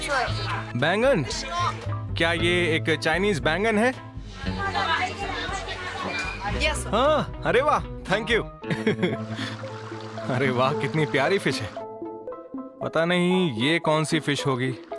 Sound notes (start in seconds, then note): 3.9 tablet translating